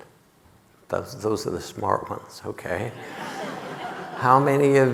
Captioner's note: audience laughing